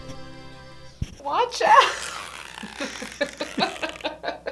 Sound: laughs

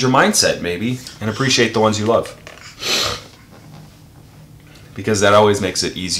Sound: sniffles

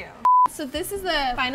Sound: TV static

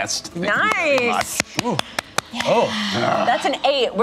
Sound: claps loudly

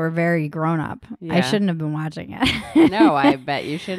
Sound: laughs

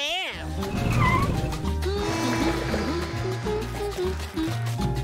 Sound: humming

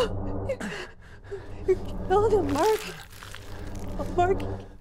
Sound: flesh ripping

